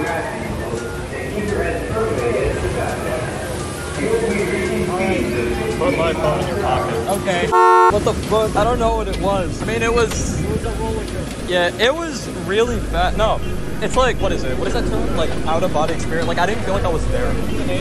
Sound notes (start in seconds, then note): 7.6 beep